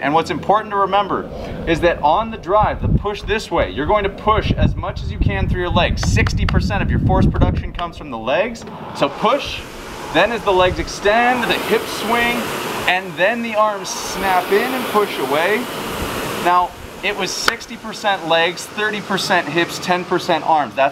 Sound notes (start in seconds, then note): 6.2 slapping; 17.4 slapping